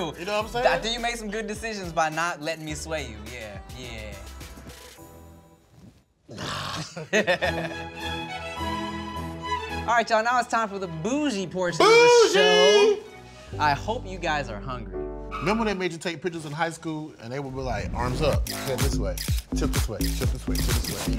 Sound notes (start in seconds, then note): 6.4 laughs; 7.7 classical music